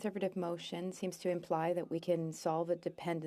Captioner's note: speaking french